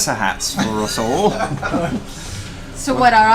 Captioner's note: all laugh